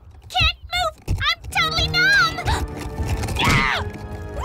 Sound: screams, mumbles

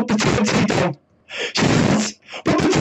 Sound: gaspy gasp

